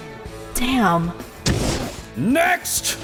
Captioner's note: fwoosh